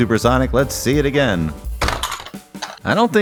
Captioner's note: bonk!